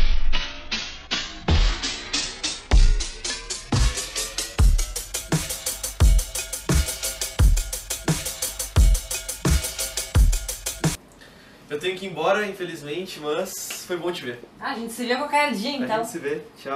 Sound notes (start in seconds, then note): 2.7 the snaps become more and more rhythmic